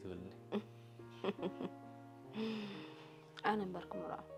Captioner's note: laughs